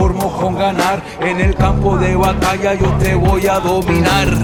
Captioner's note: non-english speech